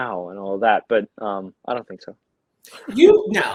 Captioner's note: chuckles